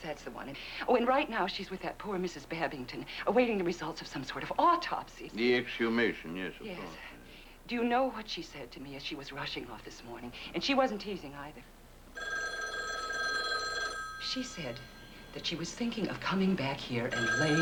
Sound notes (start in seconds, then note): 12.1 telephone rings